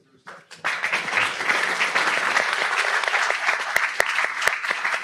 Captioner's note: audience applauds